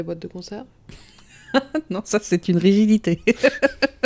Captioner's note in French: rire